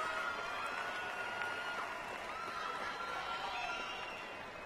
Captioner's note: cheers and applause